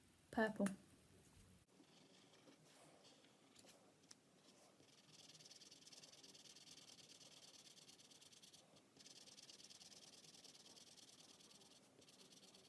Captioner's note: scribbling